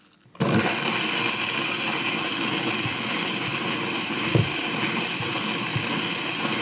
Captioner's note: bean grinding